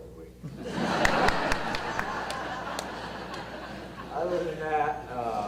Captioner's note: audience laughter